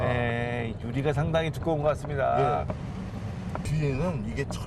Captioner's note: knock, knock, knock!